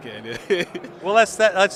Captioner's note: giggling